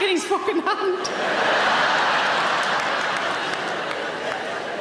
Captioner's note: audience laughing